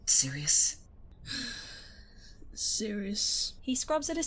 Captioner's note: sighs